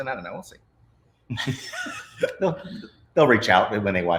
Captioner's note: all of them laughs